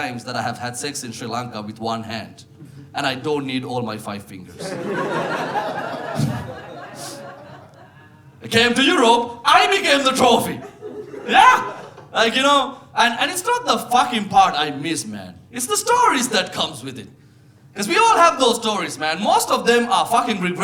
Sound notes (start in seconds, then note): 4.6 audience laughing